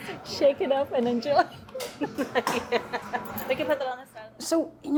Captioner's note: laughing